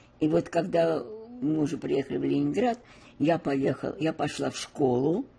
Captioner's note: none